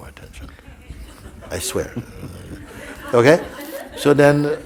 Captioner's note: laughter